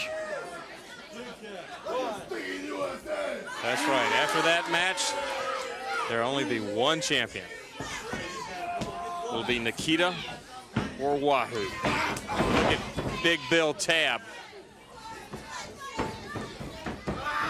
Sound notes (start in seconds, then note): 0.2 crowd chatter; 5.4 crowd cheering; 10.0 crowd chatter; 15.2 crowd chatter